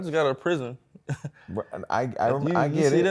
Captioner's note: chuckles